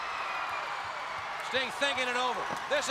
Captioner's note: crowd cheering